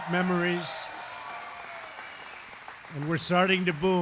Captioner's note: applause